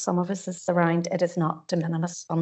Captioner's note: audio distorts 50.51